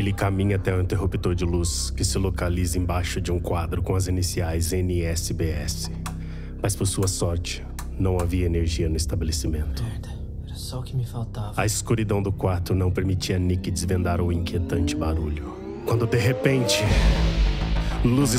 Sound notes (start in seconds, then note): 8.6 light switch being turned on and off